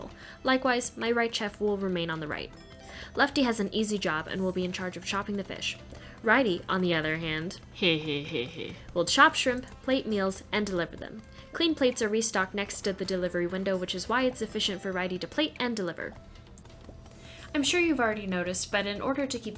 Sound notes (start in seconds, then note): 7.7 hehehe